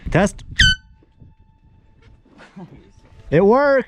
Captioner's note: air horn blowing